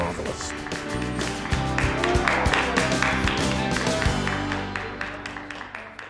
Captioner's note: applause and cheering